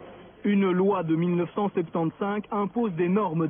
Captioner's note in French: Voix off